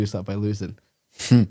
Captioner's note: laughs